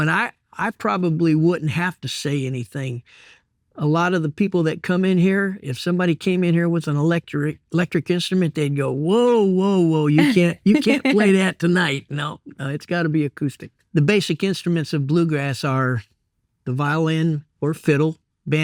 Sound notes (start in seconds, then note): 9.7 laughing